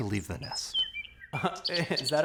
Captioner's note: birds chirping